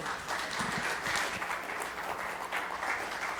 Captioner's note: audience applauds